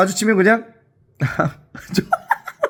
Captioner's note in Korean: 하핫